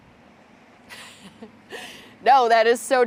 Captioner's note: chuckles